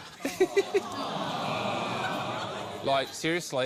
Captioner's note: audience groans